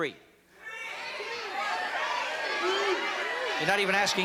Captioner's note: yelling